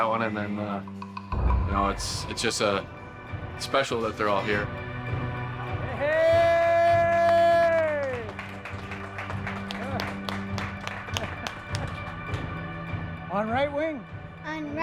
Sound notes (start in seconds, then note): 5.7 group applauds